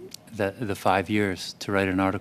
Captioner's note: speaking french